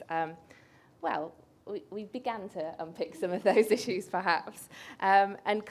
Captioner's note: laughs